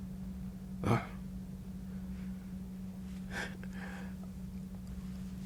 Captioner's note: exhales